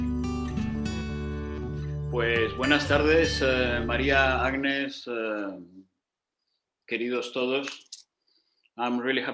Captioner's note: speaking in Spanish